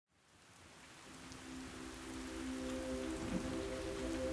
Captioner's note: rain pattering